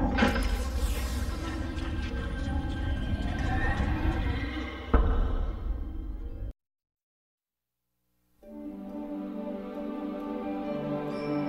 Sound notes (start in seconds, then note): 2.4 whooshes; 4.9 thud; 8.4 wondrous music plays